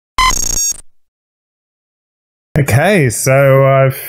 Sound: text beeps

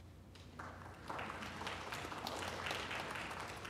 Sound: applause

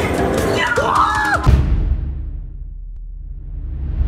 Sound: cheering; boom

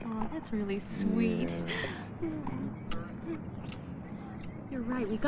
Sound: none

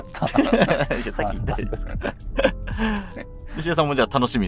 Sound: laughing

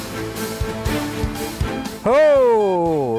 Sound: energetic music; beeping

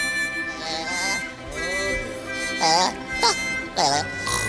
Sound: gigio snoring

